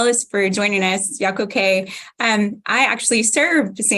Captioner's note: native language spoken